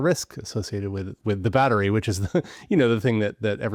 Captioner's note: chuckles